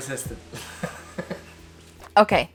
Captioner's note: both chuckle